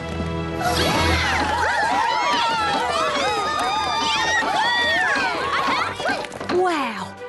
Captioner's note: cheers